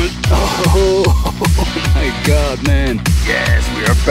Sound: laughing

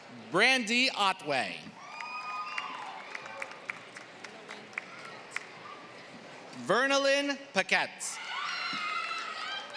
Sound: applause; applause

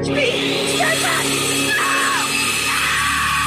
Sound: drill whirring; screaming

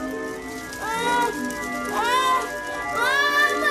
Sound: whimpers; moans; yells

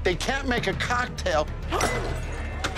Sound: glass breaking

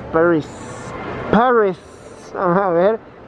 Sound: exaggerating Accent

